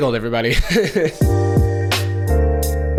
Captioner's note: chuckles